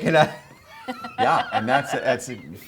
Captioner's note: RuPaul laughing